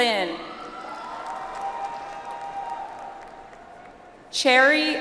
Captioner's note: audience applauds